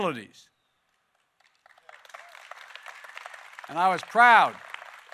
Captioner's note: applause